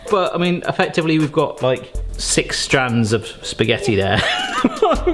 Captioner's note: laughing